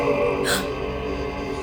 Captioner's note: mongolian throat music returns; gasp